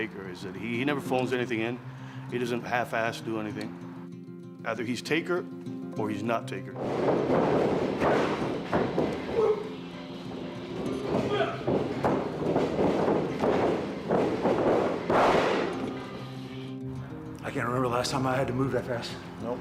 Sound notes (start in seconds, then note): 6.8 ring thudding; 7.3 lively music